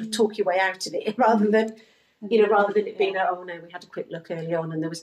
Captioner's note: laughs